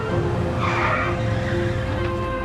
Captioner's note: brakes squeal